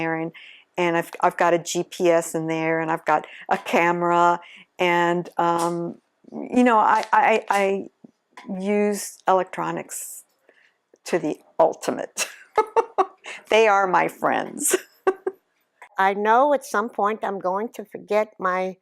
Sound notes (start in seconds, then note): 12.4 laughs; 15.2 laughs